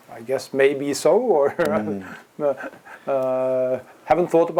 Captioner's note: laugh